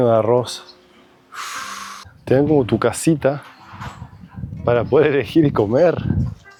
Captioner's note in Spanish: suspiro